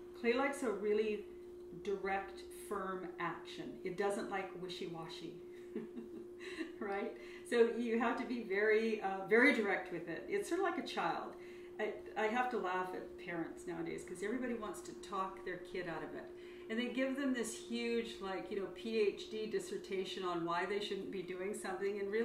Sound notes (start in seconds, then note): 5.7 laughs